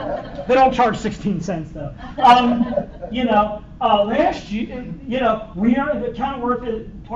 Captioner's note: laughter